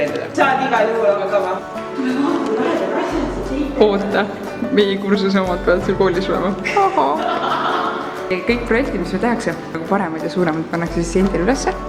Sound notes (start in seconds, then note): 5.9 haa-haa